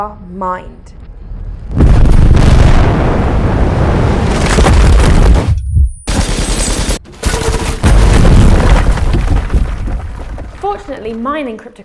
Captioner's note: blast